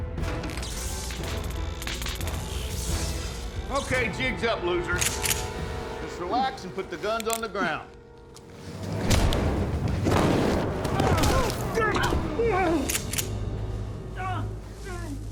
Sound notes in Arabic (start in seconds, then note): 0.1 دائرة قصيرة، طقطقة; 4.9 نقرات البندقية; 8.4 صوت ارتطام; 9.9 إطلاق رصاصة من بندقية; 10.7 صوت ارتطام، تأوهات; 12.8 نقر البندقية، يتلوى الرجل على الأرض